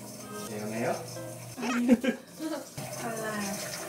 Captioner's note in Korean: 웃음